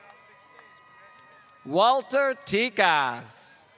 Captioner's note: applause